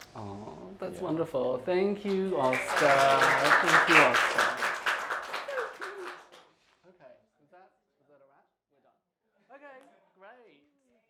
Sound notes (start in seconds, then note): 2.0 applause